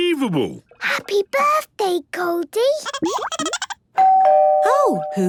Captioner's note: Goldie giggling; doorbell ringing